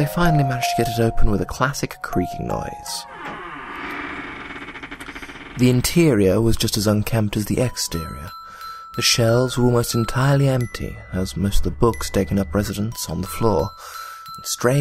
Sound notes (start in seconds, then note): 3.0 creaking noise